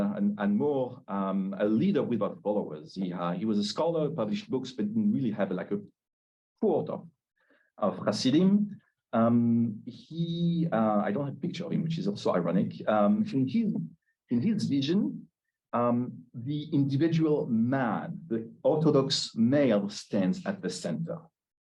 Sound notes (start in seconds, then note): 9.9 Hebrew